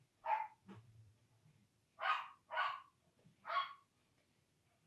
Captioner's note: dog barks